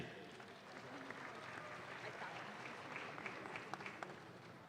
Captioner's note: audience claps